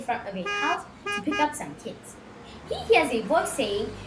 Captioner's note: car hooter